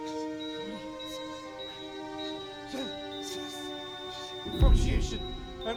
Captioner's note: monitor beeping rapidly